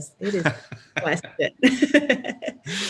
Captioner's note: laughs